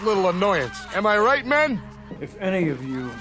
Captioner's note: background screaming